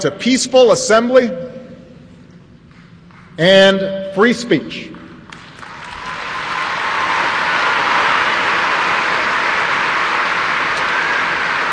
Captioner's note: applause